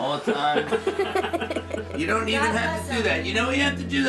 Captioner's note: all laughing